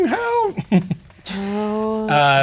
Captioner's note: chuckles